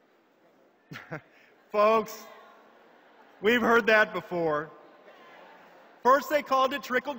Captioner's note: chuckles